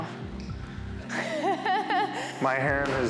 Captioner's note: laughs